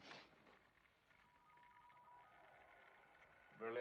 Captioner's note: radio: Tuning